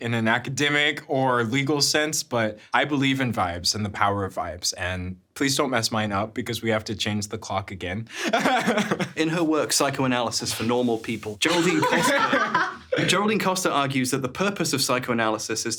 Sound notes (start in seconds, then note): 8.2 laughs; 11.4 laughing